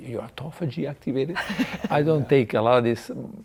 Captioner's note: laughing